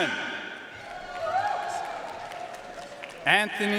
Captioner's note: audience cheering and applauding